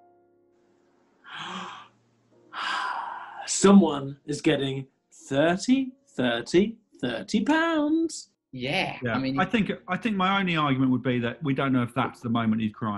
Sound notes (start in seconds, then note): 1.3 gasps